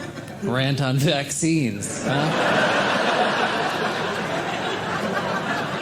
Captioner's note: audience laughs